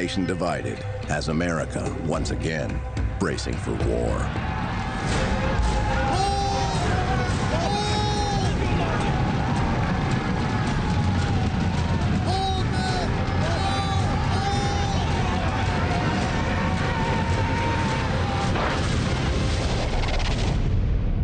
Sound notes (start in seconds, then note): 4.0 men yelling; 9.0 dramatic music; 18.4 cannon blasting